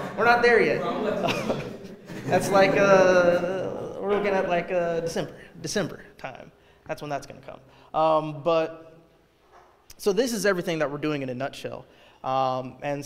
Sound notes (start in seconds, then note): 0.0 audience mutters